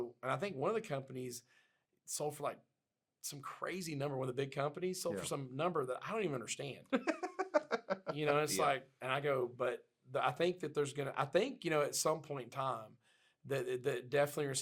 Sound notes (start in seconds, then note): 6.9 laughs